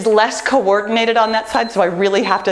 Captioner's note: timer beeps